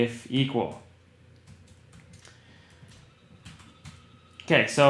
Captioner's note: typing